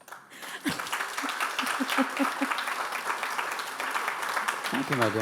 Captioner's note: audience applauding